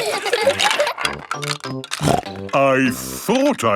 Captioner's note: laughter; snorting